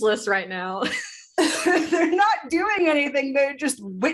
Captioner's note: laughter